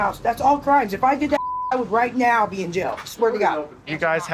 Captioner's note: beep